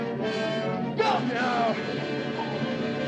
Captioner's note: groans